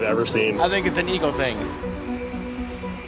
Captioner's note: tool whirring